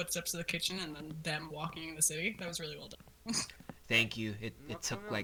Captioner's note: footsteps echo